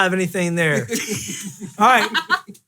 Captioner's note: laughing